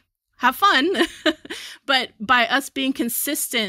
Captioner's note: chuckles